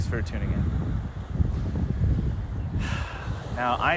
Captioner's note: deep spiritual sigh